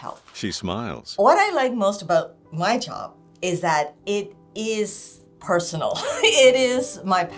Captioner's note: laughing